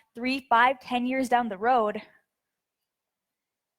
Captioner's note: none